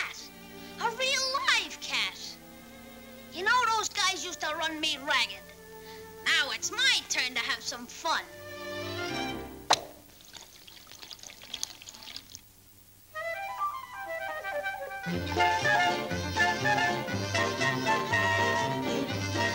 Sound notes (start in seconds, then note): 9.6 pop!; 9.8 pouring sound